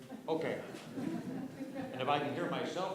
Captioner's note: laughter